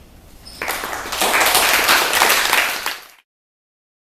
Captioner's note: applause